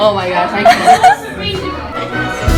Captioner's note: laughs